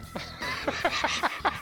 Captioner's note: laughs